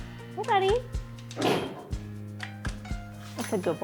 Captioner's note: door thuds